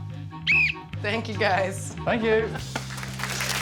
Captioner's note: whistle